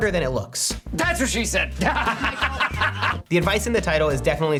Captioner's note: laughs